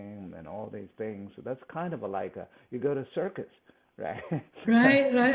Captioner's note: laughs